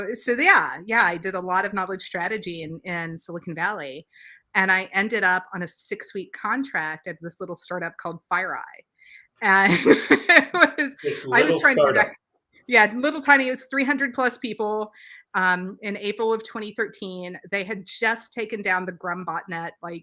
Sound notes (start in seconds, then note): 9.7 laughs